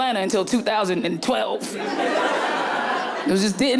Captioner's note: audience laughing